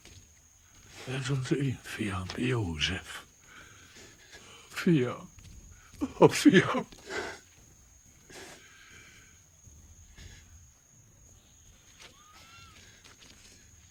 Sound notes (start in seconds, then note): 2.0 whispers; 11.2 weeping